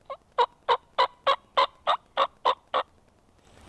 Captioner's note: turkey calls